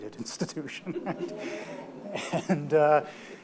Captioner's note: audience gasps